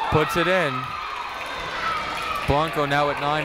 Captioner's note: cheering